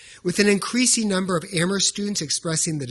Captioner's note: none